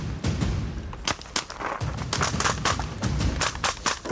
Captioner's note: gun firing